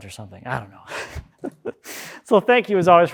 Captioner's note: chuckles